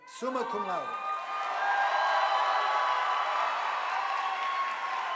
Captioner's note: audience applauding